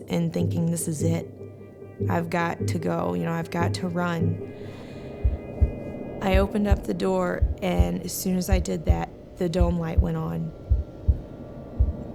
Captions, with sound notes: and thinking, "This is it. I've got to go. I've got to run." [inhales] I opened up the door and as soon as I did that, the dome light went on.